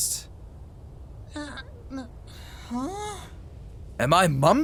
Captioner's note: audible confusion